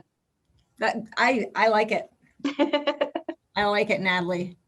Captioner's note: laughs